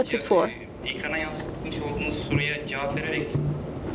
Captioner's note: speaking foreign language